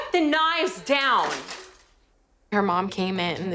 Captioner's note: knives clattering